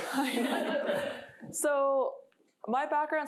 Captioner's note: laughter